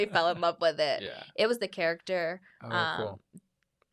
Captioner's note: laughs